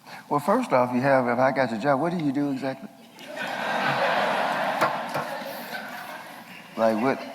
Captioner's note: laughter